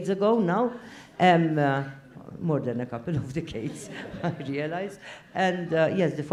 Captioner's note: laugh